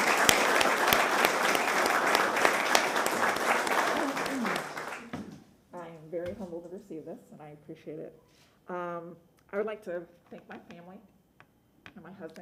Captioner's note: applause